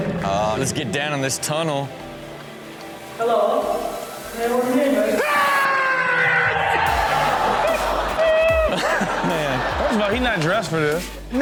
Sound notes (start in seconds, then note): 5.2 someone screams; 7.0 audience laughs